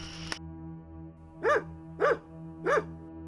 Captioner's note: dog barking